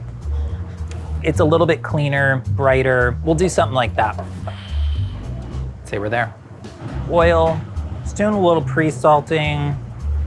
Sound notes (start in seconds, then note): 0.1 gentle upbeat music; 4.4 exhales deeply; 10.0 gentle upbeat music